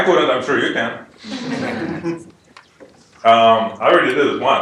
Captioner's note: laugh